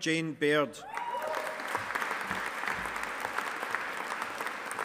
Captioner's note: audience applauding